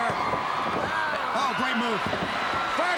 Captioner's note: crowd cheering